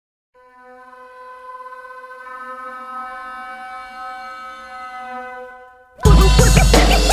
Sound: siren blaring; upbeat hip-hop music

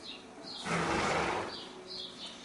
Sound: horse clears nose

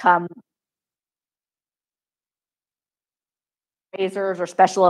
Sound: microphone cuts out

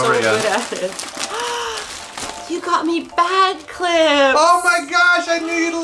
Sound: gasp

